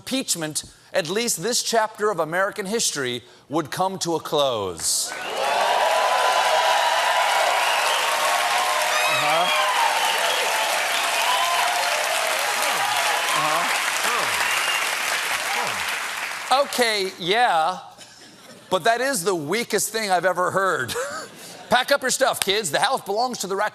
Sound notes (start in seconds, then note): 8.5 cheers and applause